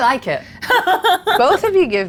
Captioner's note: laughs